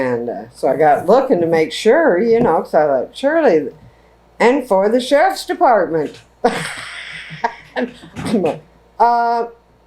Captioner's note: laughs